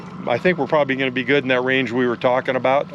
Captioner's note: beeping